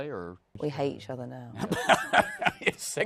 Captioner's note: laughs